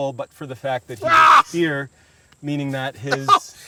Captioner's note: screams